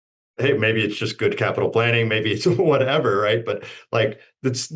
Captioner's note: chuckles